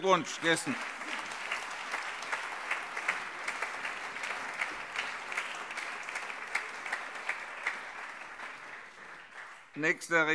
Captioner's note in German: Allgemeiner Beifall